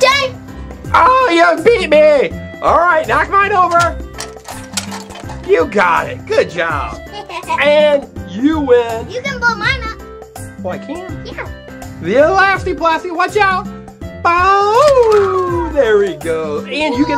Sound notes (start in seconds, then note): 6.9 laughing